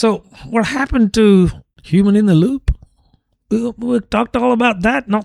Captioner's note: uh